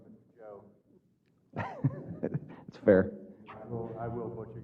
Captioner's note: laugh